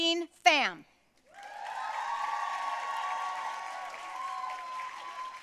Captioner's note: audience cheering and applauding